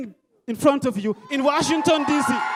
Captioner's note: crowd cheering loudly